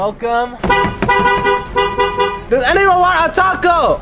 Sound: car horn honks

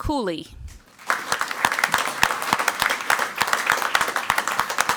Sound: crowd clapping

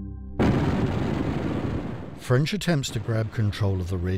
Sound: gun bangs

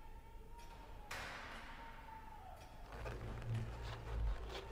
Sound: shouting

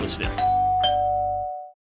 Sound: doorbell ringing

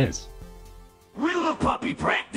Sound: Synthesised Eminem Voice

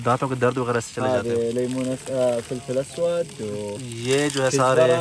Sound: Arabic

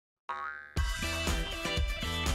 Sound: crowd cheering; ball bouncing; upbeat music

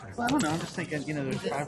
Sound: voiceover

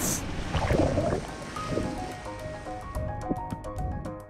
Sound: water gurgling

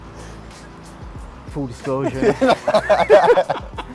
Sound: laughing

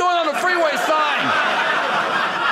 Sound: audience laughing

